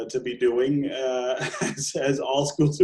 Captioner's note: laughing